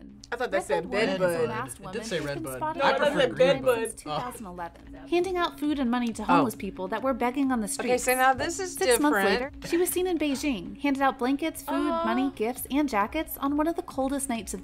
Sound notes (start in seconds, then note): 4.4 laughs